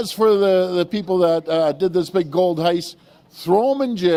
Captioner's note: applause